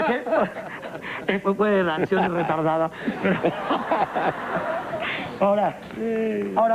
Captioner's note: laughs